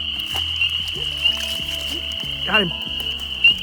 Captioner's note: splashes